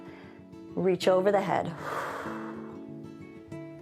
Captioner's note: exhales